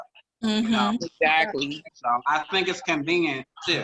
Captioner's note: woman's Voice